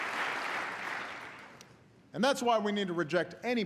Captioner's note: applause